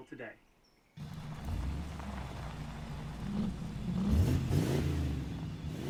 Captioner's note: motors rev loudly